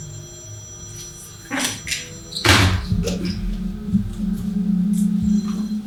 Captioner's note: phone rings